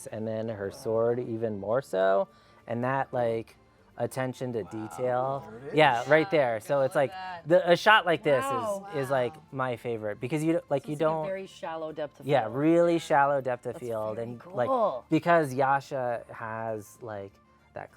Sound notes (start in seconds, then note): none